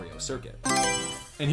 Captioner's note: Mario Selection Sound